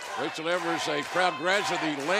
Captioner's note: fans chanting